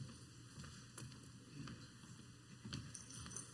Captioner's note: foot steps